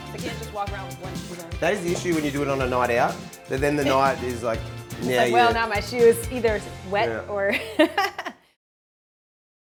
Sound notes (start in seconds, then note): 7.6 chuckles